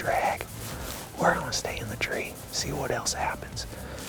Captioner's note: whispering